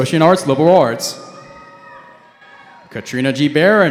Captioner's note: cheering